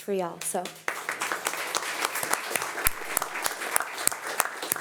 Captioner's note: audience applauding